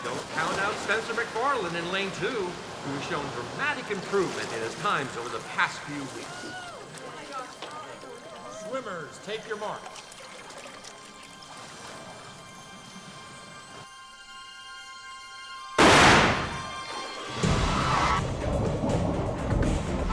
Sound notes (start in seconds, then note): 10.5 tense music; 15.8 starter's gun blasts